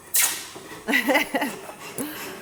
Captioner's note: hisses; laughs